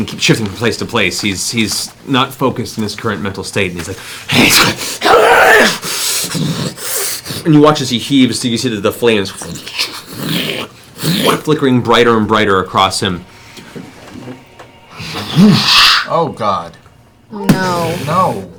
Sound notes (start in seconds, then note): 5.0 enraged roar; 14.7 fwoosh